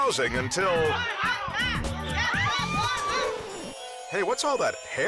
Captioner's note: crowd cheers